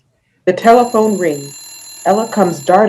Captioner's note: phone ringing